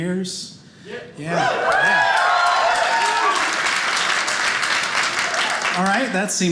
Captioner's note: audience cheering